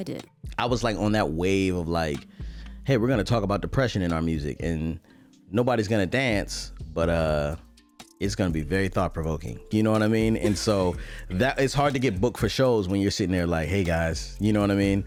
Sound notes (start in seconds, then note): 10.4 laughs